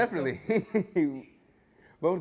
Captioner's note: laughter